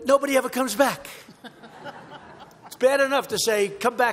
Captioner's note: laughter